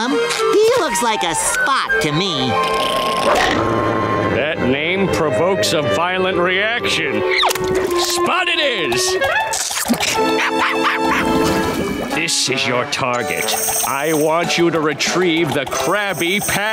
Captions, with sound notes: He looks like a Spot to me. [growling] That name provokes a violent reaction. Spot it is! [barking] This is your target. I want you to retrieve the Krabby Patty.